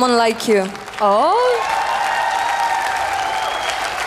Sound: cheers, applause

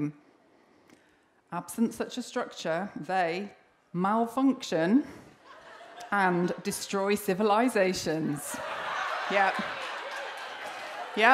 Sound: laughter and cheering

